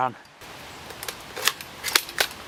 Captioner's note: gun bolt